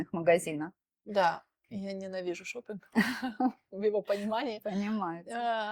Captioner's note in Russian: смех